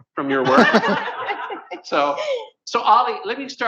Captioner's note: laughter